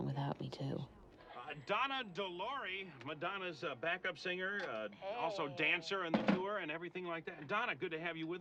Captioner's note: radio DJ